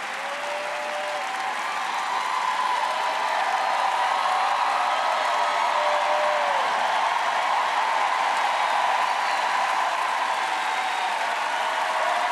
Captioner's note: applause